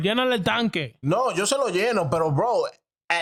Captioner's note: speaking In Foreign Language